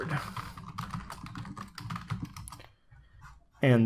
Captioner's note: typing on keyboard